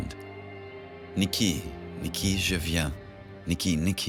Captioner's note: French spoken audio